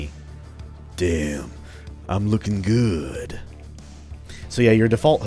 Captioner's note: Duke Nukem voice